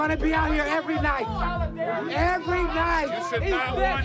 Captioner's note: people chatter